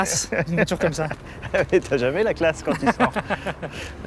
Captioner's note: laughs